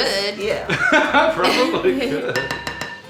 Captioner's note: laughing